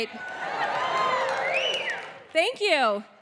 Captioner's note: audience cheering